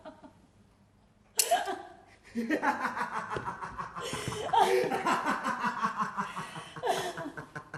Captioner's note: άσφαιρο πάτημα σκανδάλης; Γέλιο